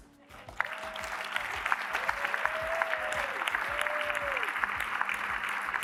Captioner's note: applause